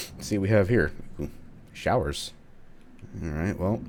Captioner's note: none